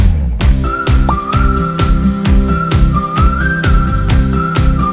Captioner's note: pop